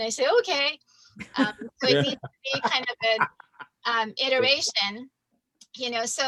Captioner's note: everyone laughs